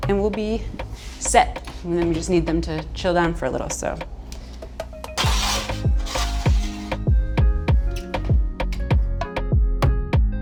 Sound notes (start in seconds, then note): 4.5 placing in oven loudly; 5.0 upbeat music